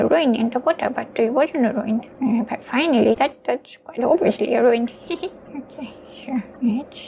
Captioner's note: chuckles